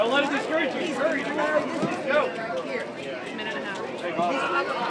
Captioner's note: crowd chatter